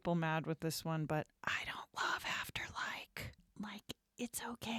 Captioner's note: whispers